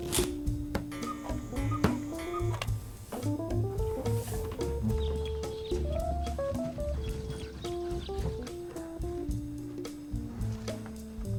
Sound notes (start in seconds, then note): 0.0 playing cards shuffling; 1.6 cuckoo clock chiming; 5.6 birds chirping; 5.6 upbeat music